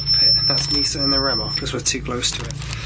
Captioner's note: REM Pod beeping